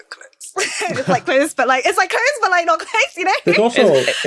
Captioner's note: laughs